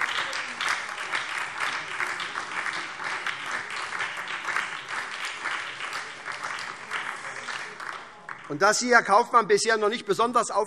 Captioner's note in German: Beifall SPD und DIE LINKE - Zurufe CDU und BÜNDNIS 90/DIE GRÜNEN